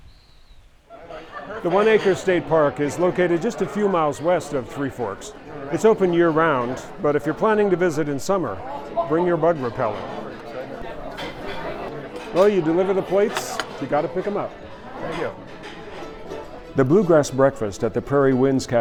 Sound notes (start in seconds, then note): 0.0 nature sounds; 12.6 cafe sounds